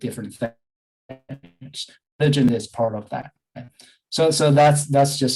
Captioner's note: audio distortion